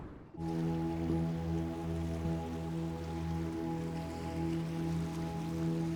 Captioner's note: peaceful music; water flows